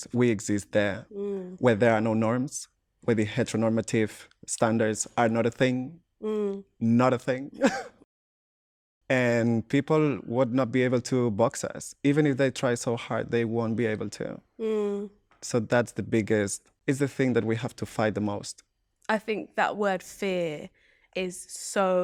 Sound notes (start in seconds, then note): 7.6 laughter